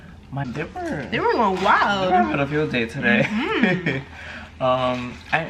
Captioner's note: laughs